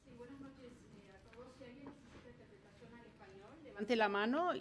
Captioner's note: speaking in foreign language